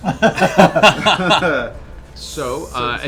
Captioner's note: laughter